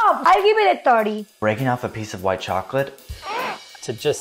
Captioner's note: gags